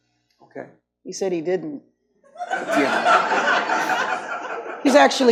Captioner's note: audience laughs